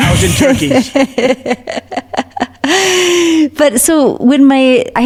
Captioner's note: laughs